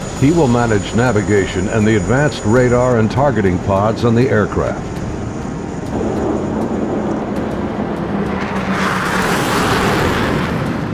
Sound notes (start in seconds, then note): 6.3 jets blasting